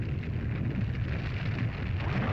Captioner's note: rumbling sound; lava bubbles & flows